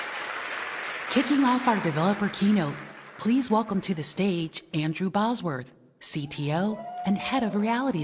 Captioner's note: cheers and applause